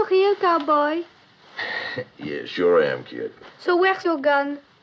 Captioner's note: chuckles